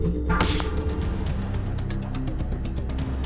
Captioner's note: gunshot